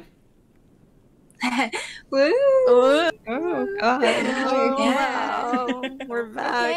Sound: happy little noises

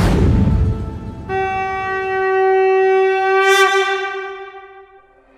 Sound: conch blowing

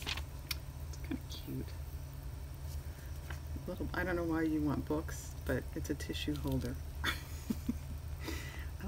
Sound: laughs

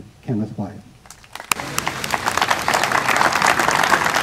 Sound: applause

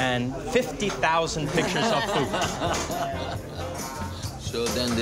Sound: laughing

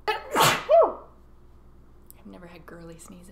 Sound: sneezes

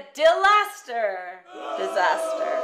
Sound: crowd booing

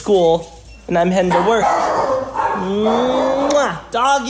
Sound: dogs barking

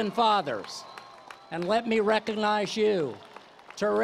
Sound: applause

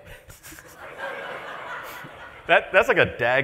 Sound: laughter

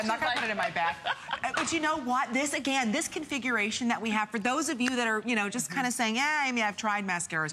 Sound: laughter

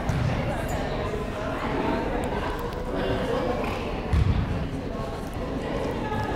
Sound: various players communicating

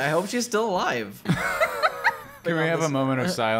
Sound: laughter

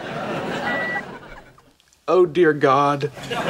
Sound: thermometer beeps

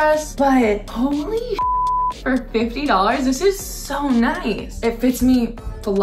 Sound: beep

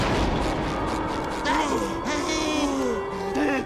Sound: thundering; panting

